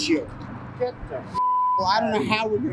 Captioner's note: beep